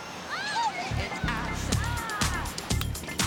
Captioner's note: children shout; dance music plays